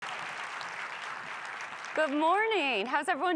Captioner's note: audience applauds